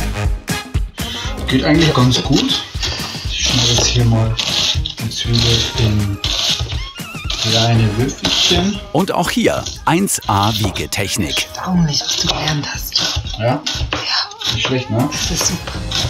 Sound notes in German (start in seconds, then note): 11.3 flüstert